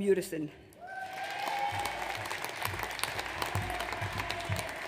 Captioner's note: audience cheers